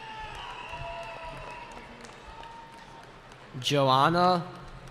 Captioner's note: cheering